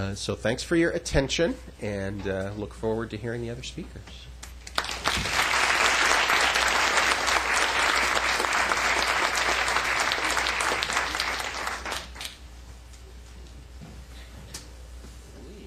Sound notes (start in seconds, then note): 4.6 applause